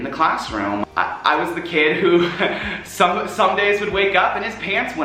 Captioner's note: laughs